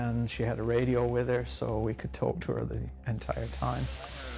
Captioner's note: voiceover